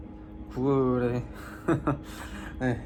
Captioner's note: laughter